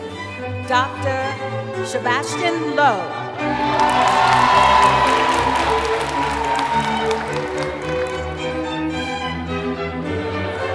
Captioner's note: cheering